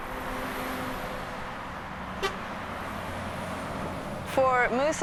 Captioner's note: traffic noise